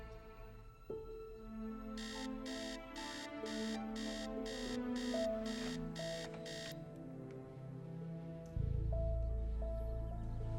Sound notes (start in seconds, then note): 2.0 alarm